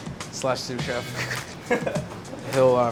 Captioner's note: laughs